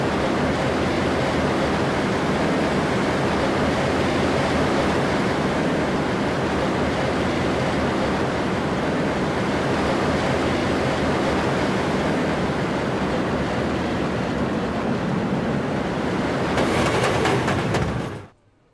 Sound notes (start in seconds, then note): 6.6 even more rollercoaster noises; 16.5 braking sounds